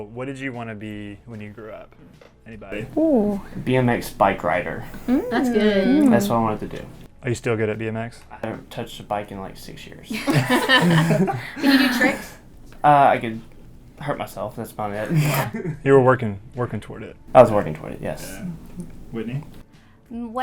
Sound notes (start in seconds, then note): 10.1 all laugh